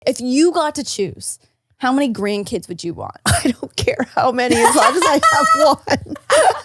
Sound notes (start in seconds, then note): 4.4 laughs